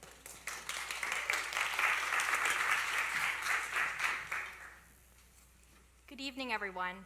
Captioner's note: applause